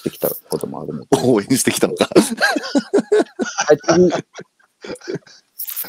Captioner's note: laughs